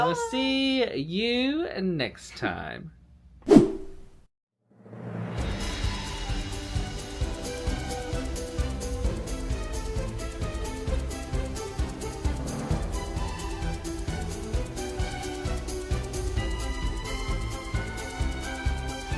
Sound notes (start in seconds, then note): 3.5 wind whipping